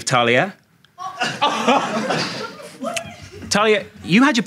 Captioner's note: audience laughing